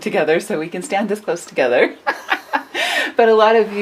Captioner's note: laughs